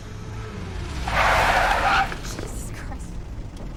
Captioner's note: tires screech